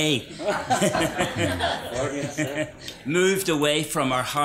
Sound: laughs

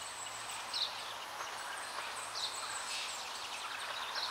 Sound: birds chirping

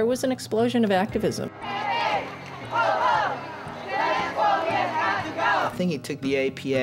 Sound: chanting

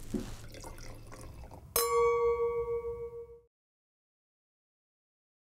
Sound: liquid pouring; cork pop; bell ringing

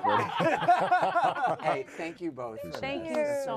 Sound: all laughing

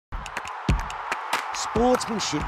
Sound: crowd cheering

